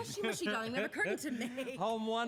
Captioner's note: chuckles